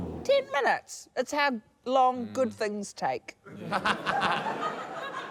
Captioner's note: laughter